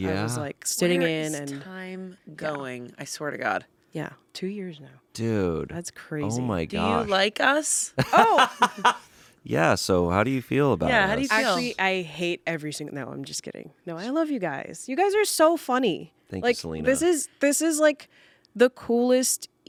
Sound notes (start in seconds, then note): 8.0 laughs